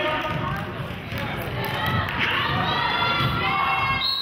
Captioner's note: clapping